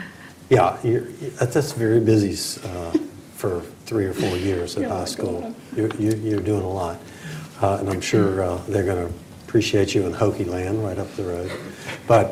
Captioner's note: laughter